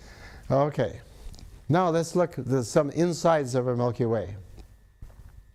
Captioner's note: sniffs